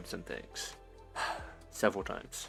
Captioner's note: sigh